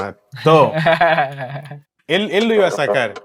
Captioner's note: laughs